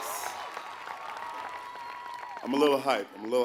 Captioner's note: applause